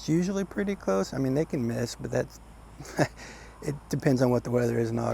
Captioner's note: laughing